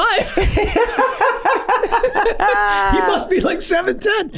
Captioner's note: gang laughing